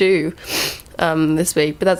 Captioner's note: sniff